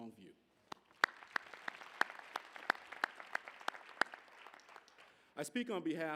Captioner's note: applause